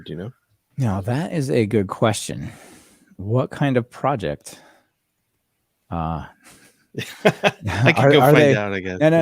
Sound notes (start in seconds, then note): 4.9 laughing